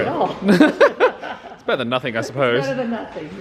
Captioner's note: both laugh